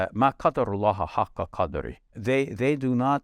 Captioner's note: speaks in foreign language